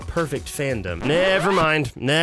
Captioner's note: record scratch